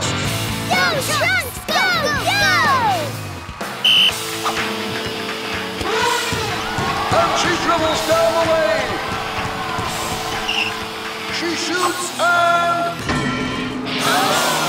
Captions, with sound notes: Go Trunks, go go! [blows whistle] [elephant horn] And she dribbles down the lane... She shoots and... [crowd gasps]